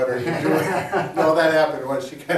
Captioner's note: both laughing